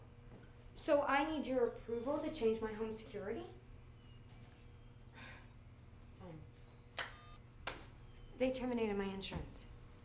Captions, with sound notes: So I need your approval to change my home security? (sighs) (phone beeps) They terminated my insurance.